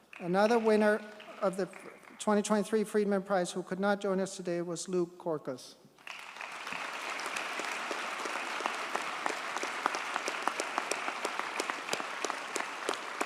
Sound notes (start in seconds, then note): 6.0 audience cheers and applauds